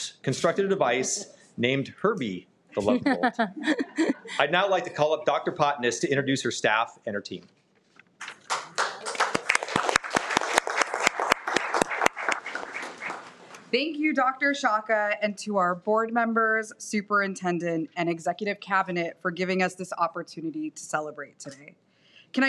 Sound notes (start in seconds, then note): 2.8 laughing; 8.2 applauds